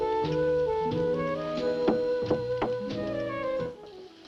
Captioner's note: knocks on door